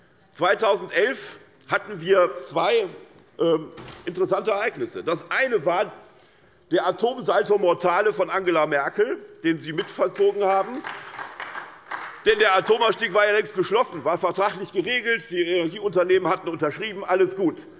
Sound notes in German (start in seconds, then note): 9.7 Beifall bei der SPD